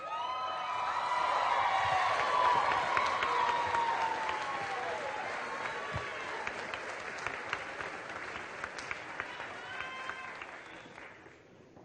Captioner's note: cheering